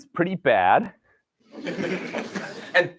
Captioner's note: laughter